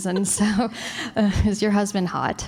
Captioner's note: laughter